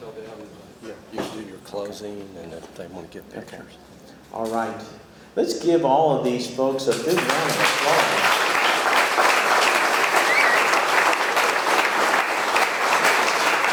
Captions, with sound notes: - Yeah, you do your closing and if they wanna get pictures. - All right, let's give all of these folks a big round of applause. (audience clapping)